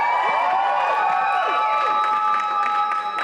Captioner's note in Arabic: هتاف الجمهور